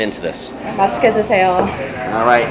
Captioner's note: speaks in foreign language